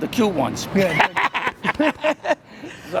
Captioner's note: laughing